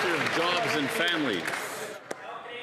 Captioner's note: some Applause